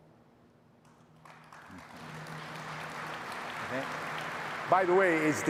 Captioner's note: audience applauding